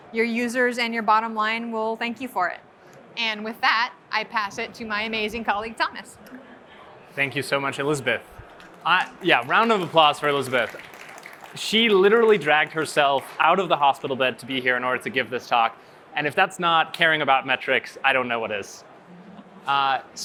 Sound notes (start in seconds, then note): 10.9 applause